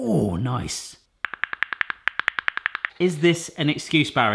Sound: lid clicking

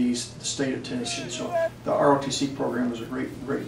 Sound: cadets shouting instructions in background

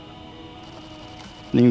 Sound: shutter clicks

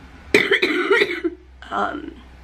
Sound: coughing

